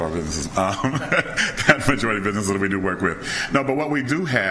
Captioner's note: laughing